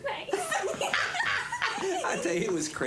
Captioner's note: laughing